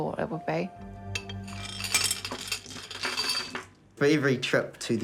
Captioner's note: glass clinks